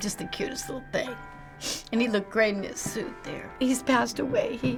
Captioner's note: sniffles